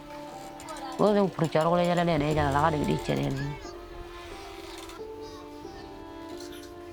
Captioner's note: speaking in foreign language